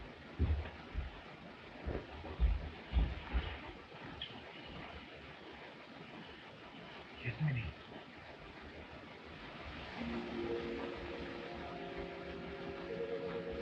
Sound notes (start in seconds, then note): none